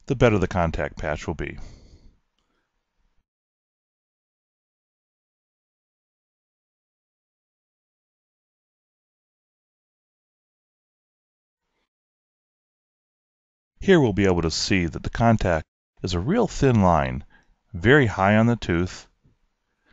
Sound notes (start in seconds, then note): 5.8 silence